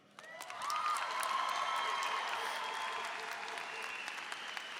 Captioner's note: applause and cheering